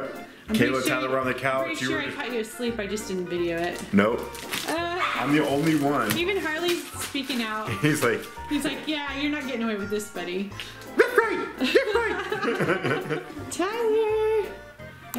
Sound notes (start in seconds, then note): 11.0 barking; 11.5 laughing